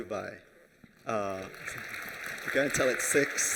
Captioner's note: applause